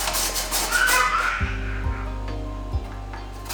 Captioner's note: children's laughter